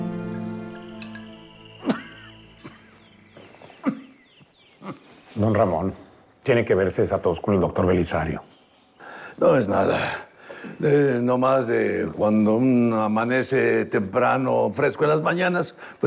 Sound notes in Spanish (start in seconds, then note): 1.8 Ramón tose